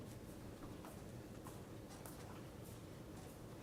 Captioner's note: none